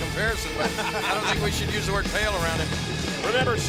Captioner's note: laugh